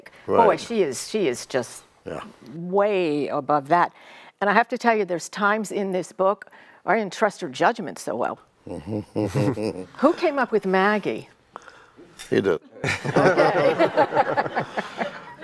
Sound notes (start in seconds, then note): 8.7 Alex and Nelson chuckling in agreement; 12.7 all laughing